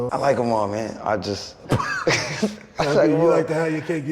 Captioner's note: laughs